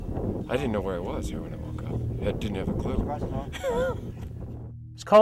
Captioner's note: laughs